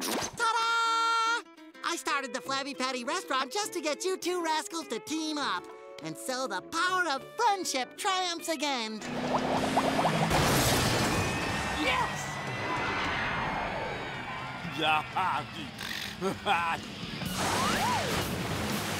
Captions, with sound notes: Ta-da! I started the Flabby Patty Restaurant just to get you two rascals to team up. And so the power of friendship triumphs again! Yes! [laughing]